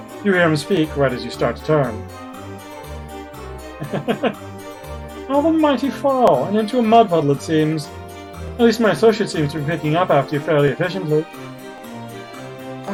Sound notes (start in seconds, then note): 3.6 chuckles